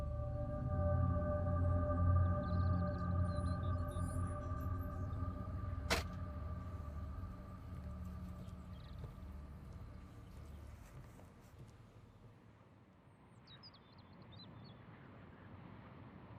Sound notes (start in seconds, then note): 0.1 ominous music; 5.8 door closing; 13.5 birds chirping